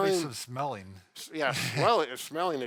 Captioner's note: laughs